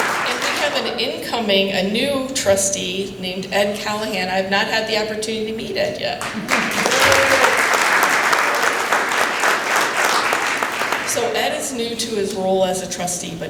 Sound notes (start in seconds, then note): 6.2 applause